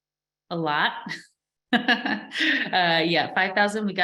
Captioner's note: chuckles